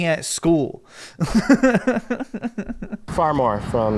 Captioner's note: laughs